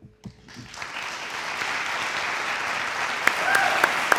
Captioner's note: audience applauds